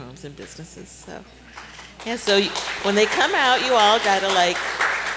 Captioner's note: applause